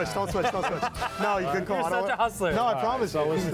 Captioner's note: laughing